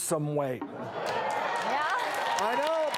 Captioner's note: applause